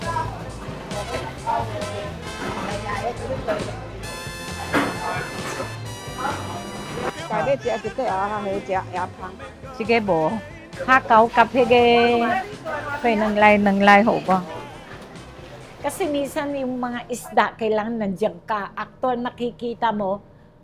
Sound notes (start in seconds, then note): 7.1 speaks in Chinese